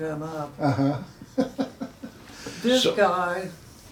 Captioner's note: chuckles